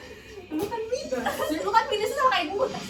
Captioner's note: laughing